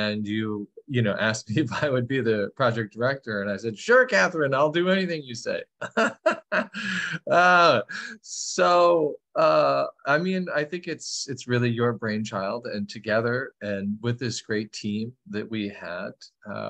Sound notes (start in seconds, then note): 5.8 laughter